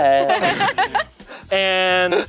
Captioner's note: laughing